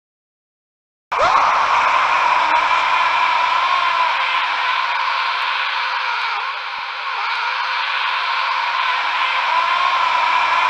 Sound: scream and shout

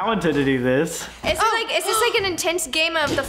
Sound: gasps

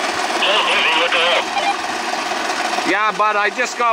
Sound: muffled speaking over walkie talkie

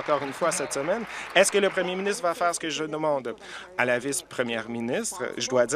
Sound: applause

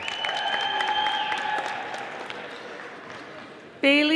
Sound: audience applauding

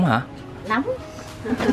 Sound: laugh

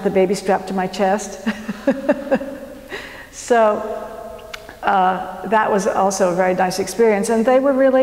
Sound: laugh

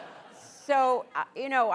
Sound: laughter

